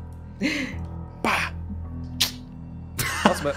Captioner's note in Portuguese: tsc